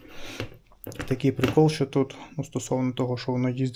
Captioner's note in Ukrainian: сопіння